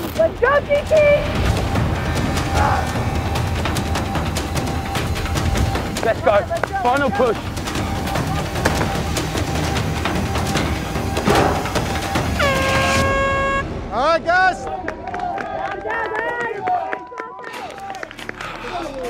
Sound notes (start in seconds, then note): 12.2 air horn blaring; 14.6 applauding